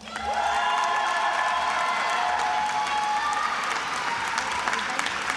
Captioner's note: attendees applauding and cheering